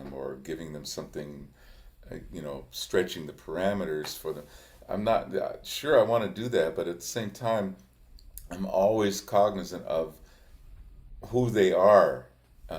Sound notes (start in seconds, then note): none